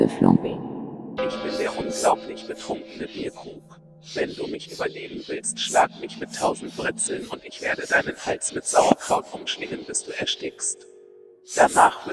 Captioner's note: beer mug speaking German